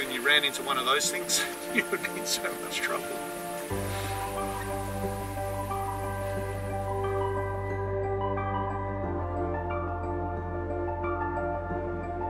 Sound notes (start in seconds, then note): 1.1 chuckles; 3.9 dreamy music